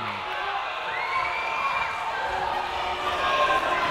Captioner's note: cheering